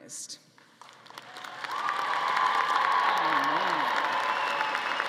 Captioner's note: audience applauding